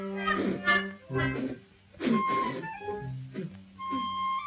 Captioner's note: person spitting